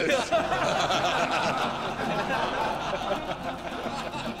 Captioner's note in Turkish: Gülme sesleri